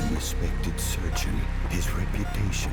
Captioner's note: machines beeping